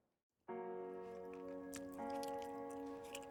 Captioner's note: eating noises